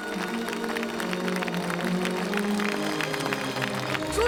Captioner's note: applause